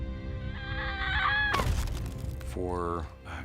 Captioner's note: arya screams